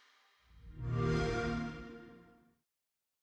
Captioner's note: xbox sound